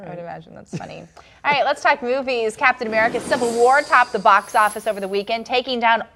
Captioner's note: laughter